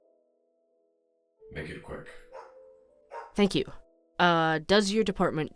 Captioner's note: dogs bark in background